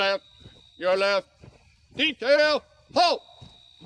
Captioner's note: footsteps thumping